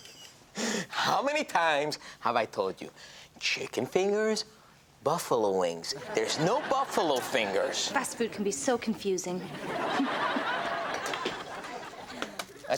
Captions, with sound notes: - How many times have I told you? Chicken fingers, buffalo wings. (audience laughs) There's no buffalo fingers. - Fast food can be so confusing. (chuckles) (audience laughs)